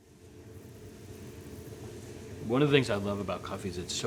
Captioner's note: machine whirring